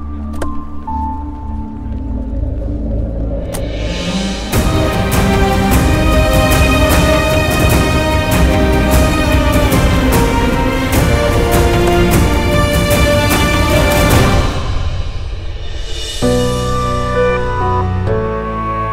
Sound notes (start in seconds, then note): 0.3 Car door opens; 3.3 Car door closes; 11.7 Car door opens